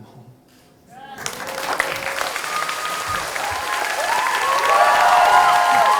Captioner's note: audience cheering and applause